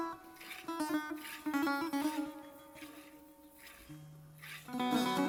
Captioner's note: sound of milking the cow